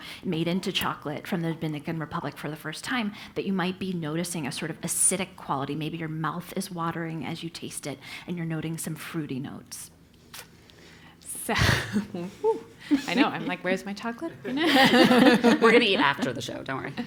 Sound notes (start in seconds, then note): 10.2 laugh